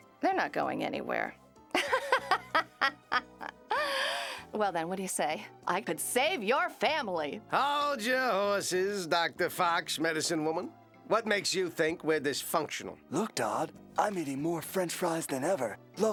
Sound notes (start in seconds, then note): 1.8 laughing